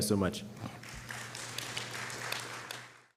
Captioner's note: applause